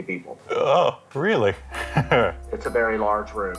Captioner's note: gasps